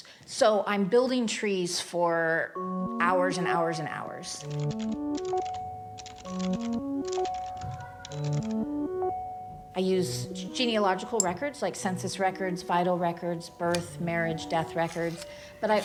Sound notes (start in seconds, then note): 4.3 typing on keyboard; 4.7 bright electronic music